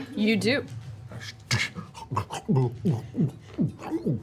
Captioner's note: gulping